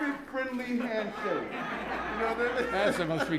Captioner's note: laughter